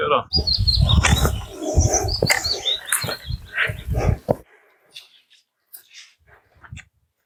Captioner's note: birds tweeting